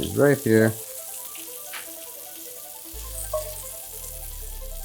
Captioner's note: sizzling